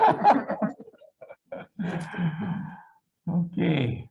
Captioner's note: group laughing